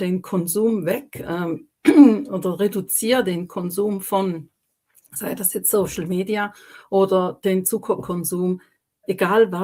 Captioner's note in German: räuspern